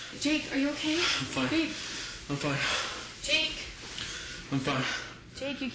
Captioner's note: gasps